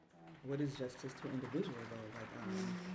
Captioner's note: audience applauding